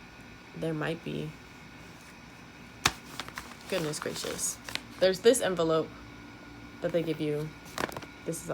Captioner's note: tapping envelope noise